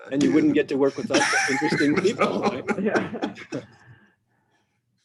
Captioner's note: laughing